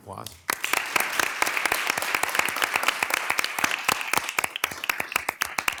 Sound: attendees applauding

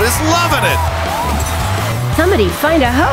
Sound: crowd goes wild

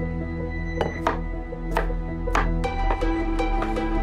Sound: knife clattering

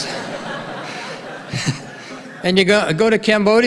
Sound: audience laughing

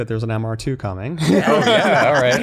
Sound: laughter

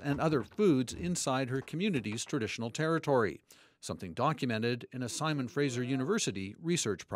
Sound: speaking indigenous language

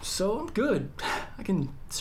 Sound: laughs

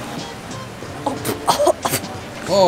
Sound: cough

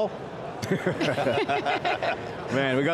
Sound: all laugh

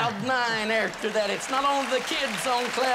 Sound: applause

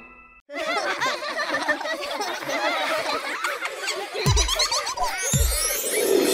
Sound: laughs

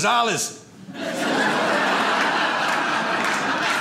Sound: audience laughs

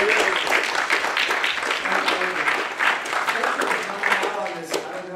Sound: audience applauding

